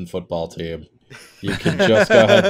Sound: laughter

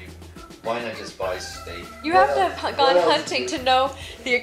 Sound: voiceover

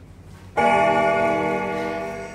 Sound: bell ringing

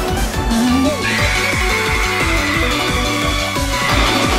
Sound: big scream

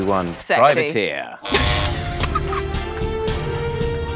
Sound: buzzer sounds; Jessie laughs; dramatic music

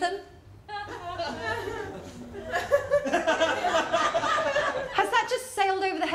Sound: laughter

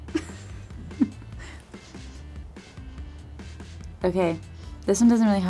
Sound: person laughing

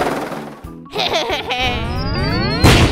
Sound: blaster shot

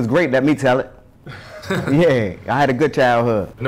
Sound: interviewer giggling

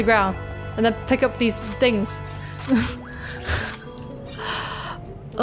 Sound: chuckles

